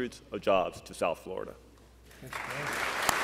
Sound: applause

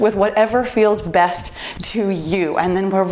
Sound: timer beeps

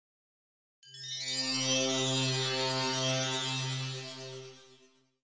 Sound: magical chimes

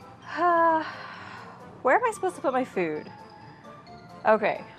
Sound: sighs

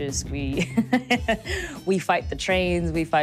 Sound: laughs

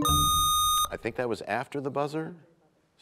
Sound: bell chimes, time expires

